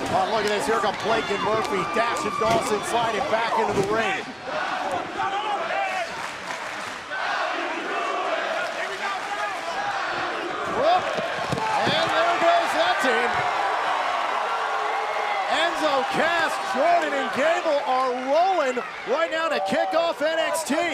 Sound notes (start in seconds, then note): 7.0 fans chanting; 13.7 cheers & applause